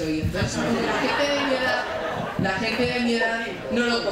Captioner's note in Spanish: Risas